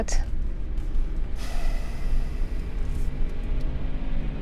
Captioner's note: car engine revving